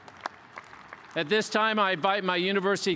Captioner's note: cheers and applause